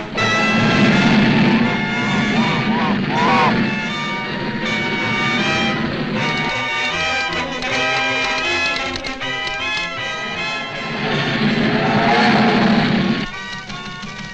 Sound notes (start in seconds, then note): 0.0 train roars; 0.0 dramatic music; 7.6 machine clicks